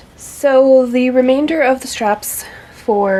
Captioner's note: none